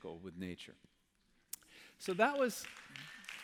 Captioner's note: applause